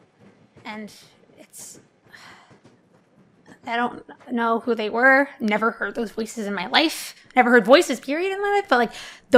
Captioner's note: sighs